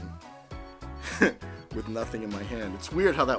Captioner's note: laughs